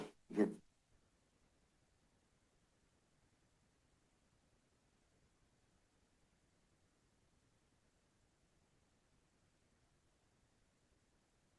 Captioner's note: silence